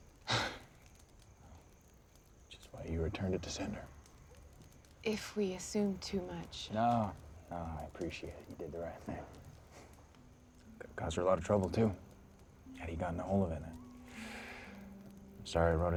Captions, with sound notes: WHICH IS WHY YOU RETURNED IT TO SENDER. IF WE ASSUMED TOO MUCH... NO. NO, I APPRECIATE IT. YOU DID THE RIGHT THING. COULD'VE CAUSED HER A LOT OF TROUBLE, TOO, IF HE'D GOTTEN A HOLD OF IT. [HE SIGHS] I'M SORRY I WROTE IT AT ALL.